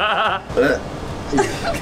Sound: gags

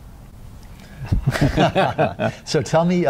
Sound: laughs

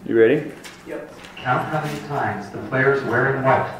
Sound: voiceover

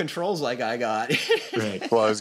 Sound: laughs

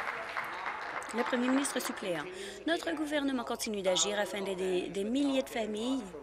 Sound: applause

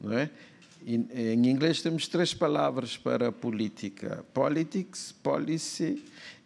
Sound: speaking portuguese

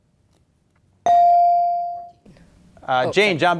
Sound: beep

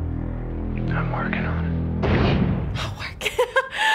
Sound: whispers; laughs

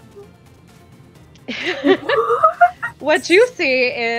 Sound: continued laughter

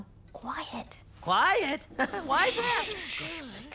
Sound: in Usual Loud Voice

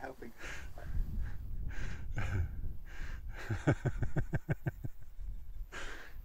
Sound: laughs

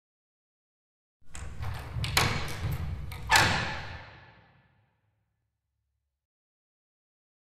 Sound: sound of door lock

